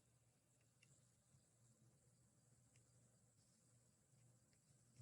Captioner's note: mouse clickings